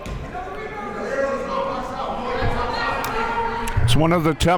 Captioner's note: murmurs